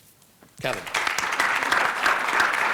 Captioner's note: applause